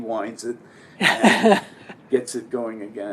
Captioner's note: laugh